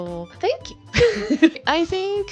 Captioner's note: laughs